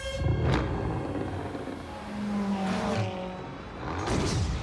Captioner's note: car revving